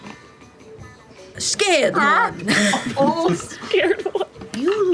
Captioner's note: yelps